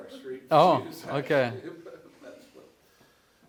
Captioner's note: laughter